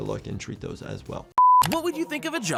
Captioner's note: screen beeps